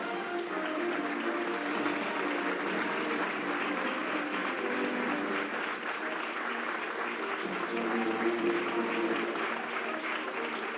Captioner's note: applause